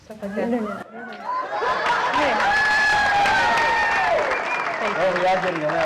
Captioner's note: audience loudly cheering